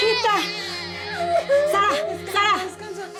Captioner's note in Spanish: Llanto del bebé